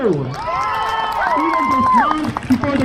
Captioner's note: crowd cheers